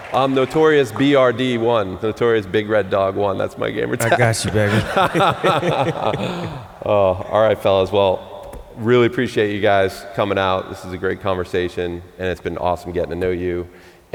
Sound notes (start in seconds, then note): 4.0 laughter